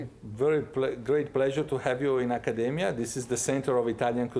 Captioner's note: with Italian accent